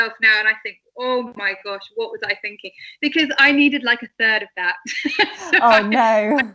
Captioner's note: laughs